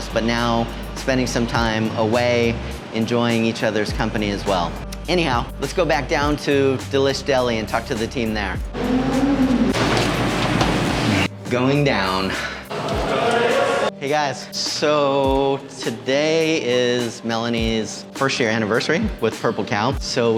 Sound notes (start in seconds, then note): 8.7 elevator grinding; 12.7 people talking ambience